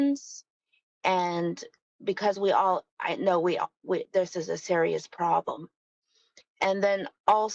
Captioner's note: speaking in native language